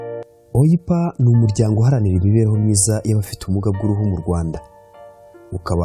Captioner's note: speaking in Kinyarwanda